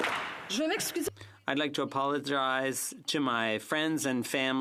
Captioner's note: applause